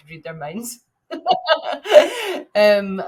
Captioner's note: laughing